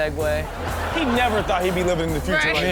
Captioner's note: crowd laughs